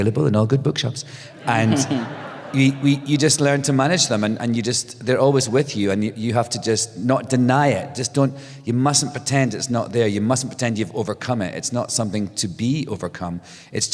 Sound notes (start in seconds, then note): 1.2 laughter